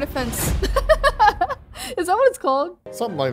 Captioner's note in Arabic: تضحك